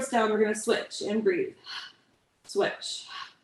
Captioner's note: exhales